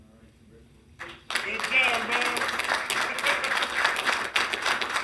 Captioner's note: council applauds